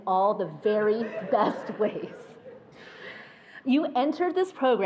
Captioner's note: attendees laughing